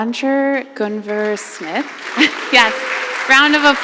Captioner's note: audience applauding